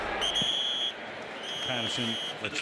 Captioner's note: whistle blows